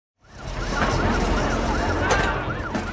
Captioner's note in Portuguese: sirenes soando